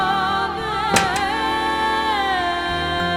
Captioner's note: doors rattling